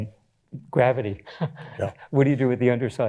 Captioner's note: chuckles